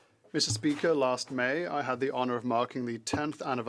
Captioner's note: speaking French